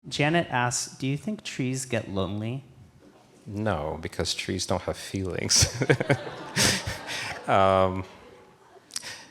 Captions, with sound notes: - Janet asks, "Do you think trees get lonely?" - No, because trees don't have feelings. (all laughing)